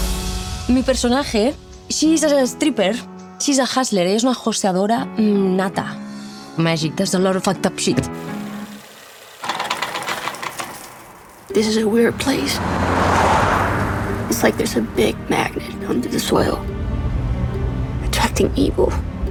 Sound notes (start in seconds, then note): 3.6 speaking spanish; 6.2 speaking english